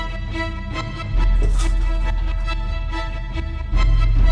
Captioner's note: blinds swish